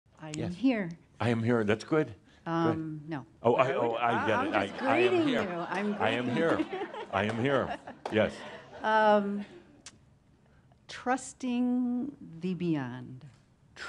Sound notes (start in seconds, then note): 4.4 laughter